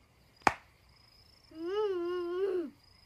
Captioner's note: moans